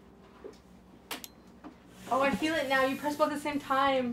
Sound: light clicks on

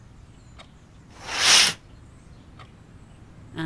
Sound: curtains opening

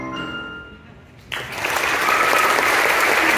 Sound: applause

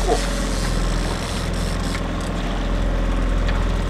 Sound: boat motor purrs

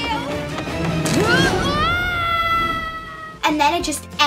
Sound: shouts

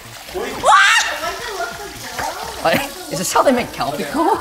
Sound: shouts

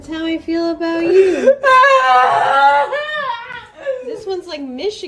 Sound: sobbing

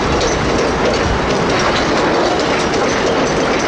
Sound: bells ringing

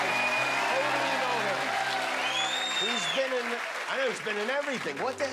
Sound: cheers and applause

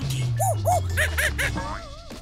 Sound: monkey chattering

